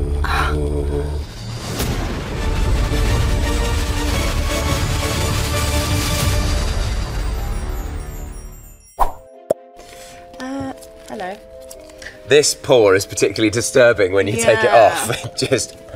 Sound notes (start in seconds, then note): 1.0 dramatic music; 7.0 logo twinkling; 9.1 logo whooshing; 10.0 lid pops